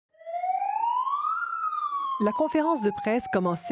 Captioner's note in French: sirène